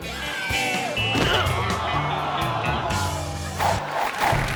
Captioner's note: head thuds; audience applauding